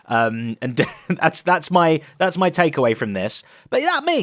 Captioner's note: chuckles